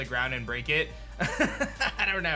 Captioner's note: chuckles